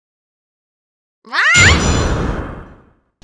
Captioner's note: Polly squawks